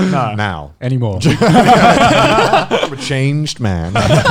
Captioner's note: laughing